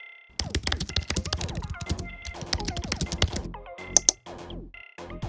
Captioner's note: keyboard clacking; mouse clicking; upbeat music